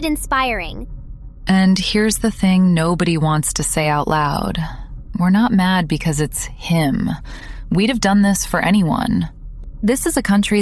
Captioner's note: breath